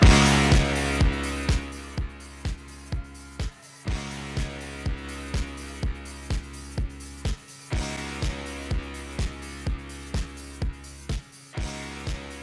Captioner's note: applause